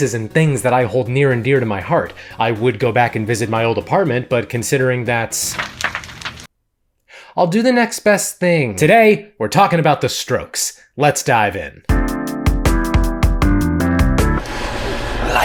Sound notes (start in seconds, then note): 5.3 fire crackling; 11.9 upbeat music